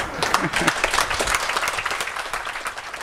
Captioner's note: applause